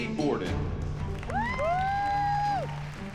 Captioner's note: whooping